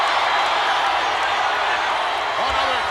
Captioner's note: crowd cheering continues